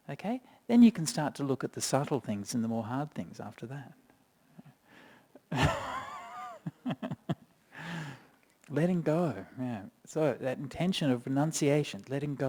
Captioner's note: chuckles